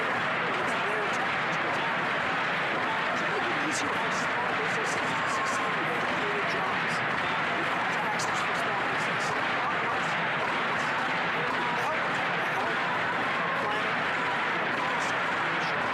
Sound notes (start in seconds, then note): 9.7 chanting